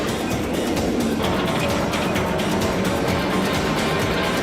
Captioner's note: ride whooshing